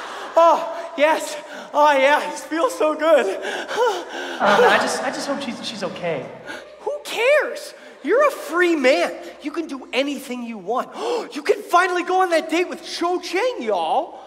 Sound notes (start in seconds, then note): 0.0 audience laughs; 10.9 gasp